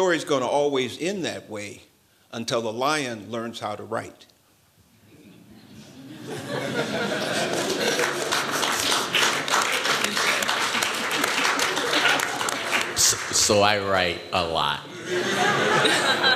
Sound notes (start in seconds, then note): 5.8 laughter; 7.2 applause; 14.9 laughter